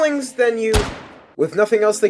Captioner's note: gunshot